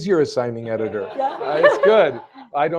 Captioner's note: laughter